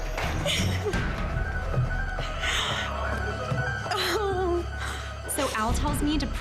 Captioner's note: weeps